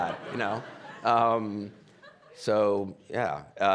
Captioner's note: audience laughing